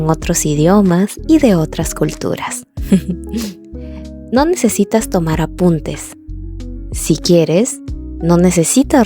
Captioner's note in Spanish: risas